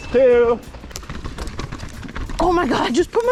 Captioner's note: wheels wheezing